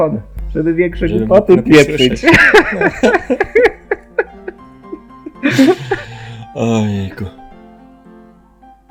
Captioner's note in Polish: śmiech